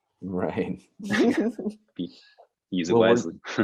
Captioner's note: laughing